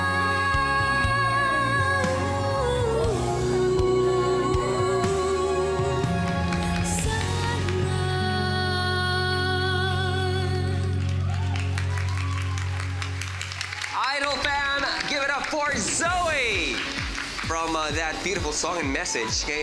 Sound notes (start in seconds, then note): 11.0 audience cheers